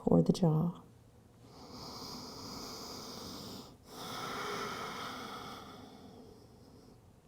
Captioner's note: inhaling and exhaling